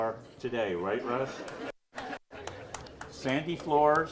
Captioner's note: audience laughs